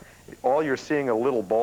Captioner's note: none